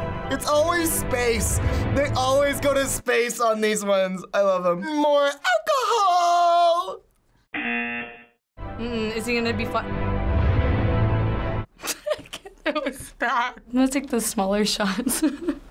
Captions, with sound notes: It's always space. They always go to space on these ones. I love 'em. More alcohol! (buzzer) - Mm-mm, is he gonna be f-- (laughs) I can't. That was bad. I'm gonna take the smaller shots.